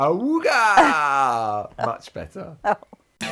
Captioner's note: laughs